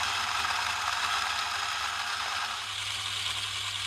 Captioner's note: quiet whirring